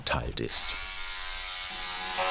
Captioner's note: whirring